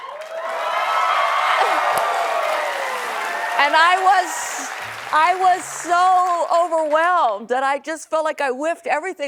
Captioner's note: applause